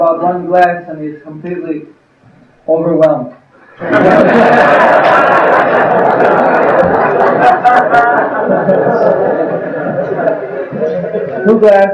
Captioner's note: laughter